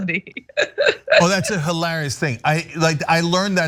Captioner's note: laugh